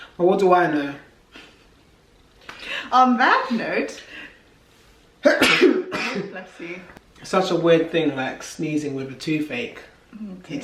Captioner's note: sneezes